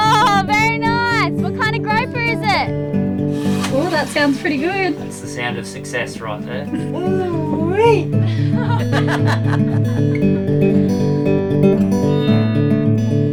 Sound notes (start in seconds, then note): 8.9 laughing; 10.3 soft indie music